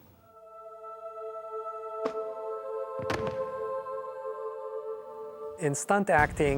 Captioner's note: soft thoughtful music; skeleton thudding